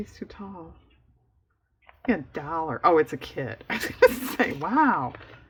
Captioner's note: laughs